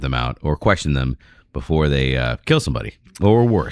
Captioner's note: uh